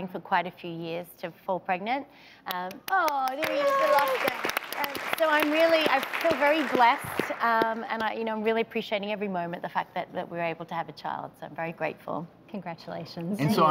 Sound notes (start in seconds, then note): 2.5 audience claps